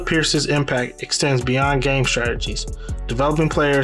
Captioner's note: voiceover